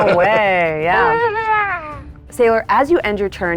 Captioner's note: grunting